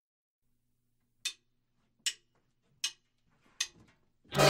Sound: stick clicking

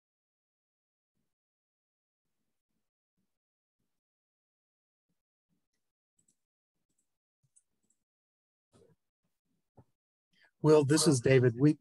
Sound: silence

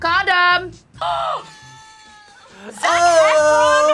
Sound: Bita gasps

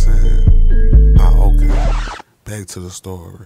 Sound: record scratching

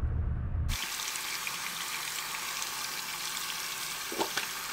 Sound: water running

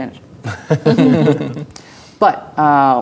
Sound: players laughing

